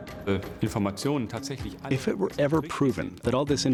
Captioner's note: non-english speech